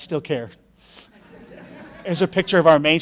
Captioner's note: laughing